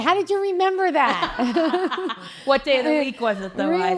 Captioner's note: chuckles